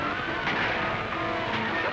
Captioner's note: gunshot